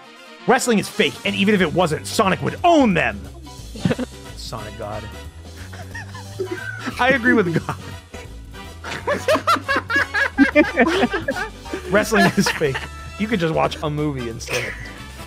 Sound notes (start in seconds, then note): 3.7 laughs; 5.6 laughs; 8.8 laughter